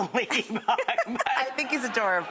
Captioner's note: laughing